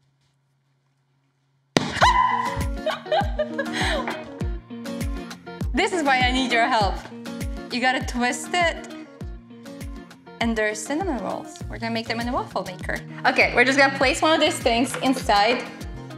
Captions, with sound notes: (can pops) (woman shouts) This is why I need your help, you got to twist it. And there are cinnamon rolls. We're gonna make them in the waffle maker. Okay, we're just gonna place one of these things inside.